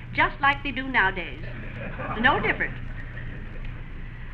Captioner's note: laughter